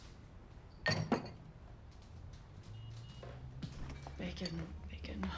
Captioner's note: glass clinks